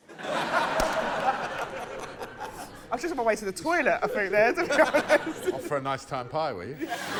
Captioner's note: laughter